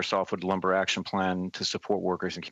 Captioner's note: speaking FRENCH